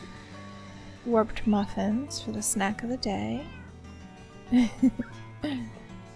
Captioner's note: giggle